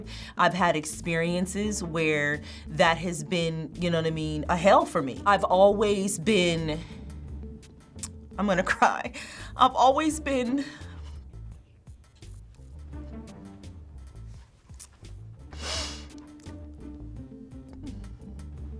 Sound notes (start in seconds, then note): 9.3 choked up